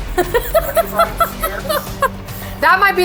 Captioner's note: laughter